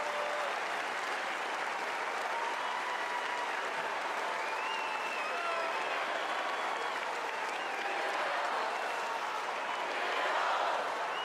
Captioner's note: cheers and applause